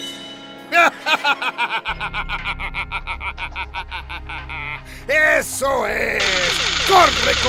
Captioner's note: laughter